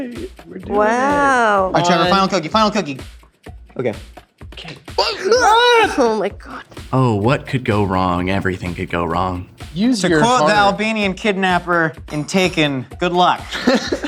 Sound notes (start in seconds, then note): 5.0 yell; 13.5 all laugh